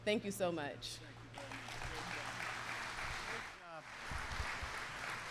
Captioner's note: applause